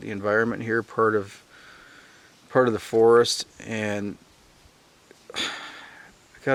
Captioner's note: sighing